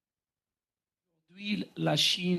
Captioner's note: speaking French